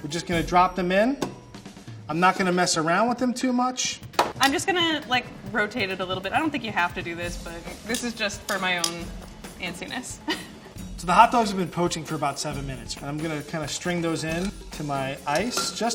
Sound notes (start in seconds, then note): 10.2 laughs